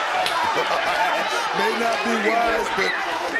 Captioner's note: laughs